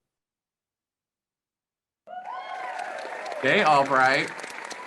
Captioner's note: crowd cheers